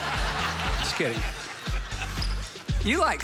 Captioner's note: audience continues laughing; audience laughs